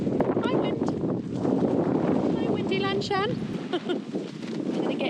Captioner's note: giggle